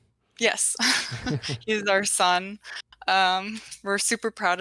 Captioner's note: chuckles